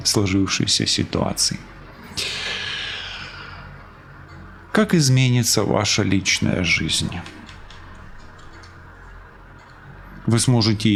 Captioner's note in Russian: вздыхает; тяжело вздыхает